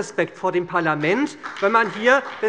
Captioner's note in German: Beifall bei der SPD